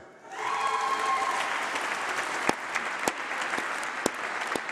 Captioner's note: applause